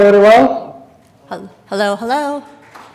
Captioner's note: applause